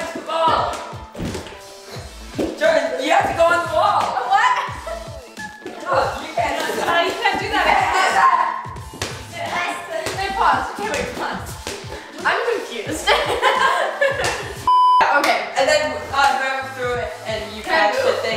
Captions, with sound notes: - You touched the ball! Jordan, you have to go on the wall. - Oh what? (yelling) - Wait pause, okay wait pause. I'm confused. (laughter) - Okay. - And then, whoever threw it and you catched it